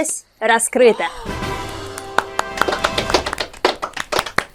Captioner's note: clapping